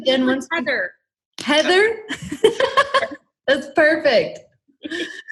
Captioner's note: laughs